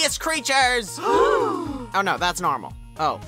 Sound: they gasp

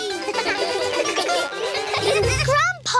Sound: all giggle

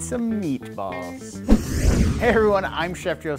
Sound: meatball whooshing

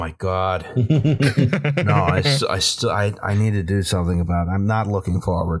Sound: laughter

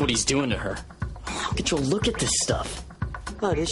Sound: groans

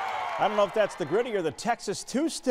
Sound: cheers

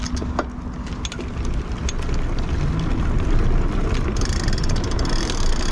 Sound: bicycle pedaling

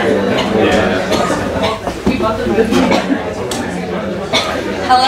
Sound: audience chattering

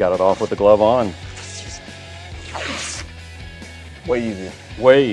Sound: tape peeling

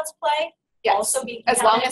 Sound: voiceover

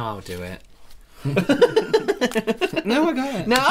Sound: scared Laughter

